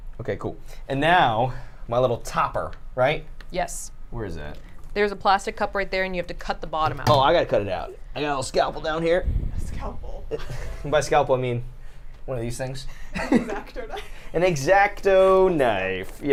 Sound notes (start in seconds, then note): 10.7 laughs; 12.9 laughs